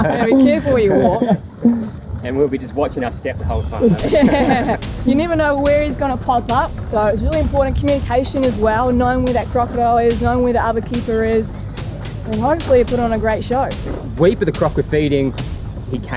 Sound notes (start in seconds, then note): 3.7 laughs